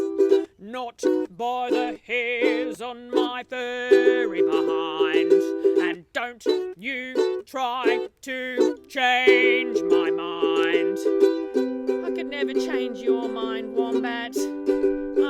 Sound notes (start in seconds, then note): 10.9 speaks